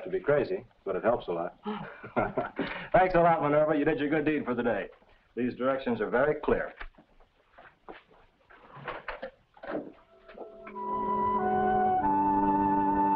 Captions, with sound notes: But it helps a lot. (both laugh) Thanks a lot, Minerva. You did your good deed for the day. These directions are very clear. (dramatic music)